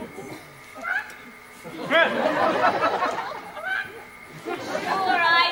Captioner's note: Beatrice makes animal sounds